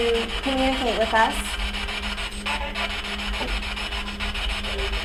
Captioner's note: static buzzing